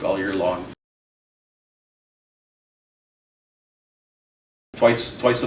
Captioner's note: silence